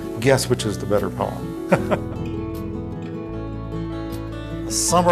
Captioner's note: laughing